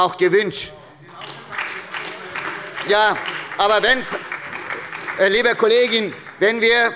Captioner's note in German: Beifall bei der SPD – Zurufe von der CDU